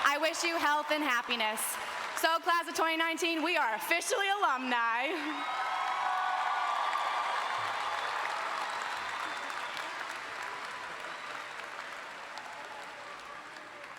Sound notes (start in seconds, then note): 6.5 all applauding